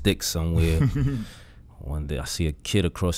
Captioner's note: Quentin laughs